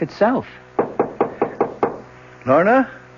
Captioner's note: knocking